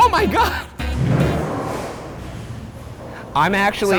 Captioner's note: pins banging